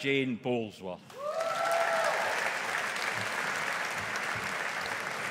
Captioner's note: audience applauding